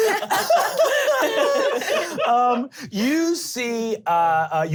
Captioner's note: laughing